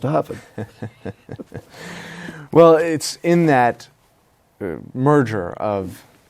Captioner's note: laughs